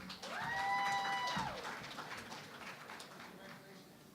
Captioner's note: cheering and Applause